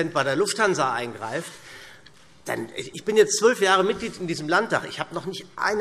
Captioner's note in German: none